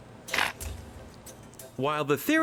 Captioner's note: electronic device buzzes